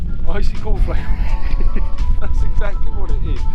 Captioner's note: laughs